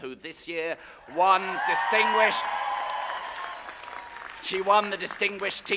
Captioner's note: audience applauding